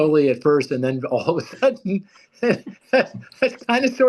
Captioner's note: laughs loudly